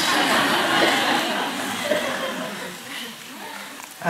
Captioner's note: laughter